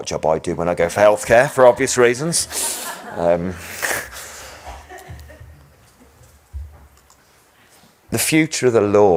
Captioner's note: and audience laughs